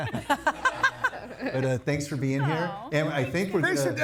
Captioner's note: laughing; audience laughing